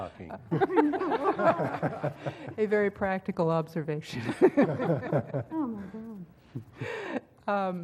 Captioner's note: laugh